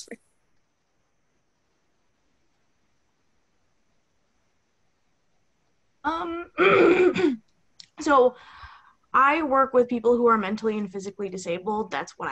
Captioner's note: clears throat